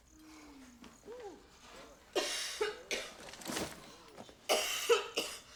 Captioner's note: coughing